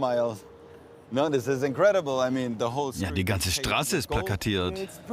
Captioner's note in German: englisch